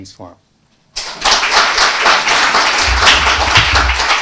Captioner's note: audience applauding